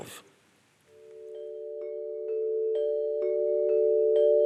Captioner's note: bells chiming